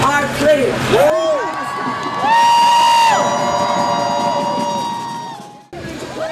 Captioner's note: crowd cheering